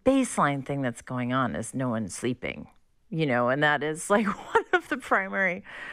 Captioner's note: laughter